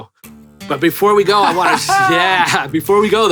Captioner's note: laughs